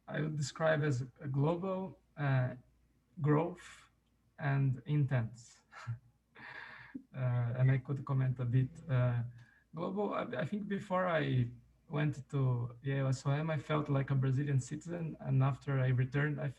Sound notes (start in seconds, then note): 5.7 chuckles